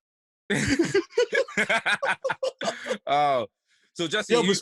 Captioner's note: laughter